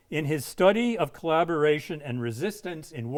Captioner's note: none